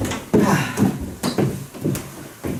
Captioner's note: sighs